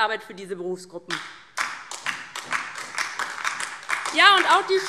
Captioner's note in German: Beifall DIE LINKE